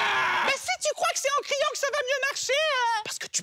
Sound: shouting; acute Voice; whispering

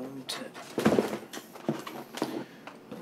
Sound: camp supplies rattling

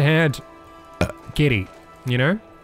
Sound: burp

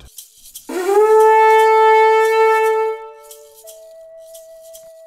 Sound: horn blare

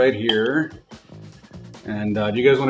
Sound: cutting

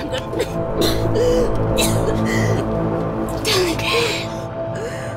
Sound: coughing

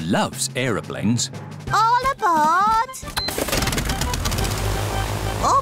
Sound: engines whirring

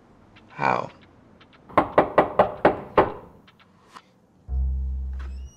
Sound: knock on door

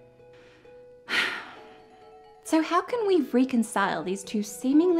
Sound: sighs

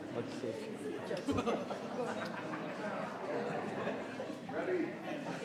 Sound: people chattering

